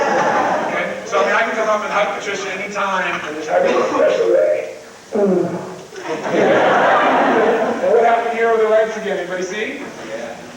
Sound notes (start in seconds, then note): 0.0 crowd laughs; 5.9 crowd Laughs